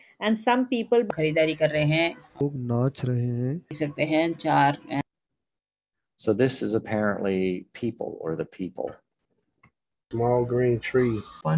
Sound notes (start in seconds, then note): 1.0 speaking hindi